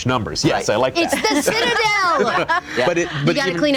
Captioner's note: laughing